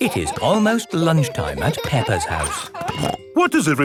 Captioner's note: laughing